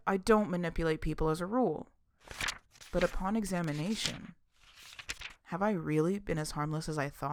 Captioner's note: SFX: rapid page turning